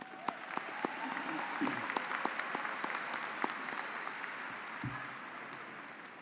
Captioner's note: audience cheering and applauding